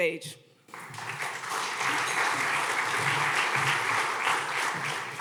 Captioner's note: audience clapping